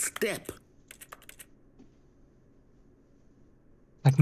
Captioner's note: typing